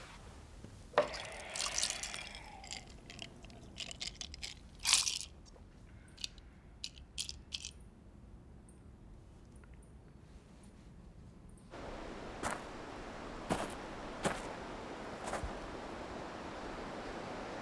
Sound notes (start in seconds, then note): 6.3 ice rattling